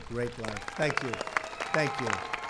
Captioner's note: applause